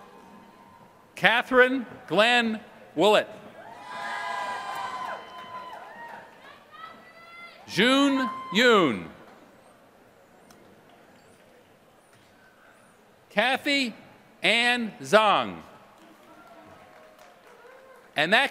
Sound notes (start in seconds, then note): 4.3 applause; 15.9 applause